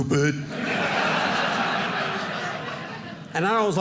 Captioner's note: audience laughing